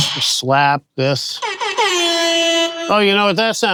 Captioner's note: punches thudding; air horn blaring